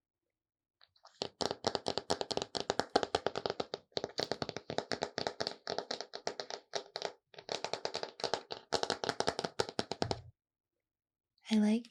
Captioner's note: plastic tapping sounds